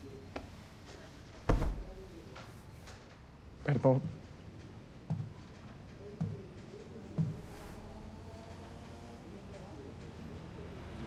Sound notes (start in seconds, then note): 5.1 footsteps thudding